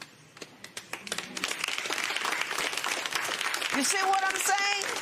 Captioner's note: applause